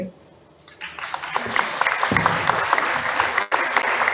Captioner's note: audience applauds